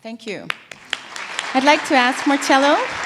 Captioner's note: applause